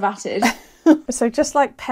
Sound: laugh

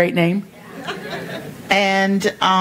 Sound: congregation laughing

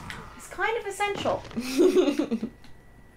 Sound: laughter

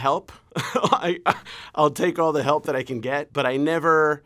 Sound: laughter

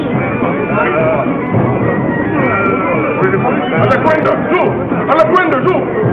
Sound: men speaking in foreign language

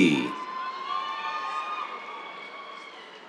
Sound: cheers

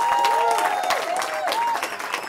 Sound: cheering

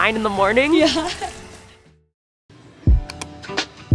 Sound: laughs; light upbeat music

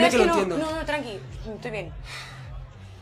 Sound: huffs

